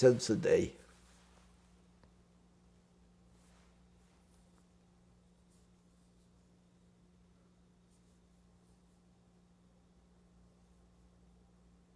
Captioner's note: pauses 12 seconds